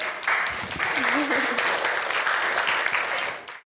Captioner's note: audience applauds